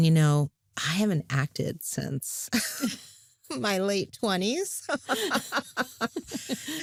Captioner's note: both laugh